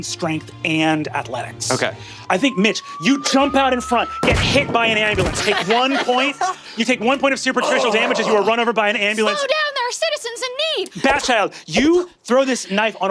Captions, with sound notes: Strength, and Athletics. - Okay. - I think, Mitch, you jump out in front, (impact clunks) get hit by an ambulance. Take one point- (laughing) You take one point of Superficial damage as you are run over by an ambulance. - Slow down! There are citizens in need! - Bat Child, you throw this knife.